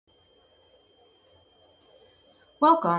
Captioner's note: beeping